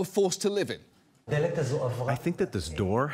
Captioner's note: speaking in hebrew